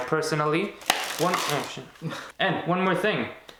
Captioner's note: cards shuffling loudly